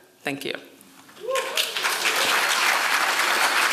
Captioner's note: applause